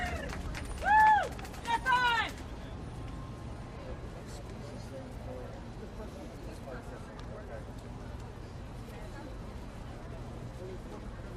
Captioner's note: applause